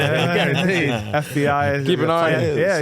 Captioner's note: laughing